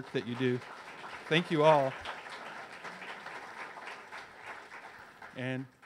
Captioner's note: audience cheers